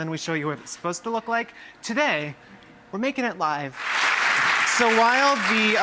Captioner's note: applause